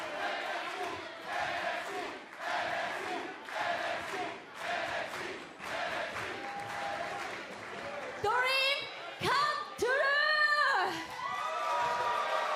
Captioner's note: fans chanting